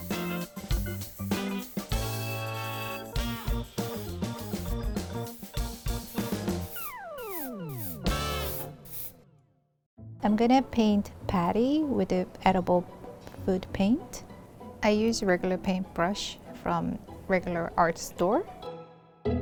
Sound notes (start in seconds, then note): 0.3 upbeat music; 5.1 spraying